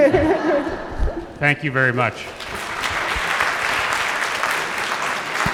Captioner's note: audience laughs; audience applauds